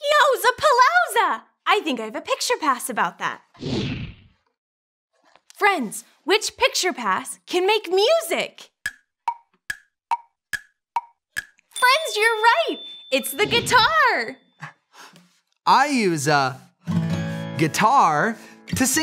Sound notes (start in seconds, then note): 3.7 whooshing; 10.1 clock ticking